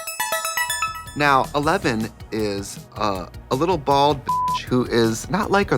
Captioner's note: beeping